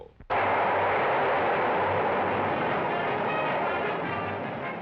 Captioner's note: rush of rocket